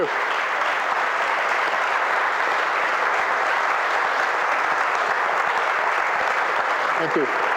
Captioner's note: applause